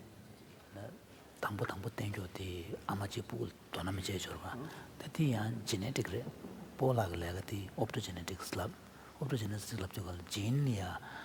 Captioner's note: foreign Language